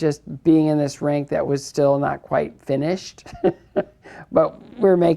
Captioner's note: chuckles